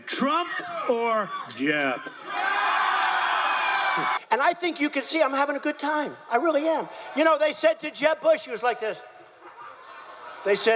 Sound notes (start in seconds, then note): 2.5 crowd cheering